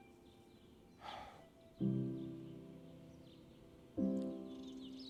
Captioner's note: Michael sighing